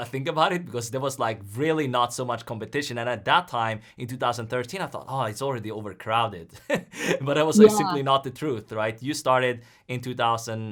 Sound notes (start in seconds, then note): 6.8 laughs